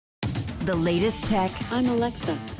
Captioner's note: voiceover